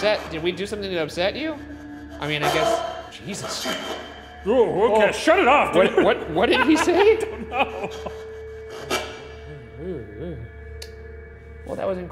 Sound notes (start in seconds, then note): 2.7 voice shrieks; 3.7 voice hissing; 5.3 laughing; 8.6 spirit box buzzing